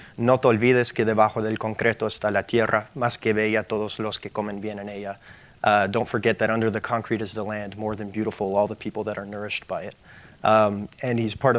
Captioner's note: speaking in Spanish